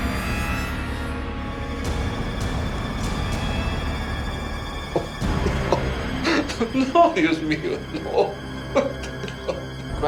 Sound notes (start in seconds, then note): 5.2 crying; 7.0 speaking Spanish